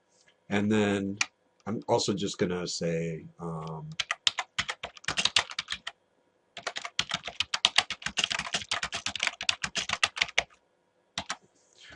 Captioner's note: typing